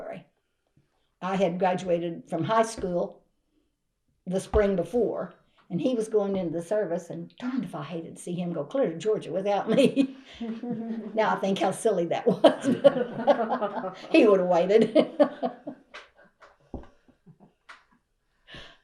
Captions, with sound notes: I had graduated from high school the spring before, and he was going into the service. And darned if I hated to see him go clear to Georgia without me! (Laughter) Now, I think how silly that was, but… (Laughter) He would’ve waited.